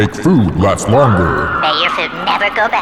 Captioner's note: person screaming